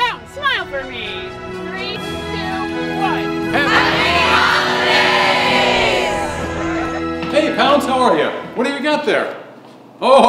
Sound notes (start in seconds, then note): 3.5 everyone shouting